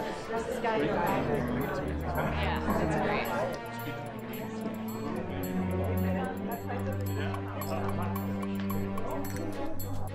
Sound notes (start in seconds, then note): 3.1 guests chattering; 4.8 guests chattering; 7.7 guests chattering